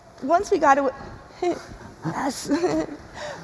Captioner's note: chuckles